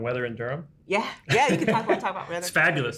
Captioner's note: laughs